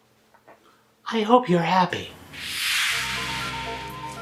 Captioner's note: whoosh